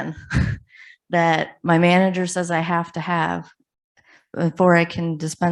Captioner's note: chuckles